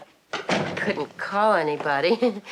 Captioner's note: chuckles